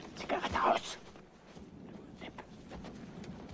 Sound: speaking german

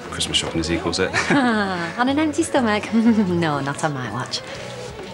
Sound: giggles

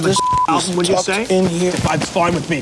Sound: beep

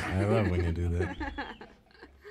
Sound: chuckling

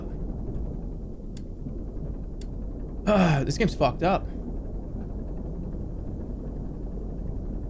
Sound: clears throat

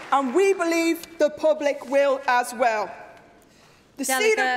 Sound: applause

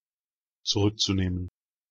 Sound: fast Pronunciation

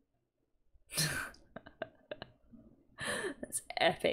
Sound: laughs

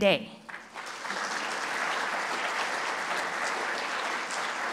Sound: applause

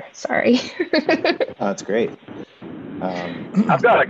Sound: laughs

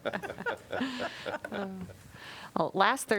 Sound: laughter

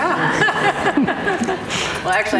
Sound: audience laughing

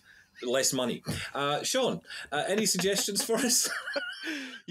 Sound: chuckles

